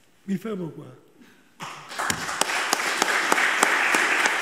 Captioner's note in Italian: Applauso